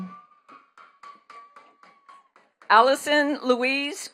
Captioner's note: attendees clapping